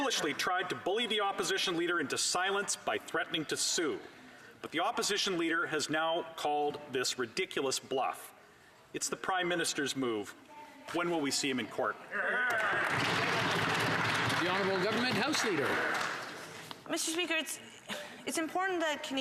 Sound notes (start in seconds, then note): 15.1 some Applause